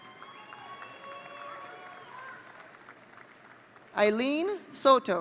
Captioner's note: audience cheering